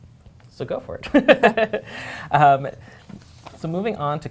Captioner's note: laughs